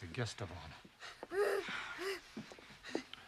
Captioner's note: moans